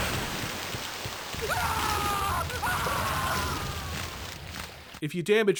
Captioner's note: agonized scream